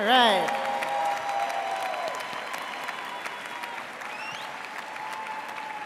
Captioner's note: audience cheering and applauding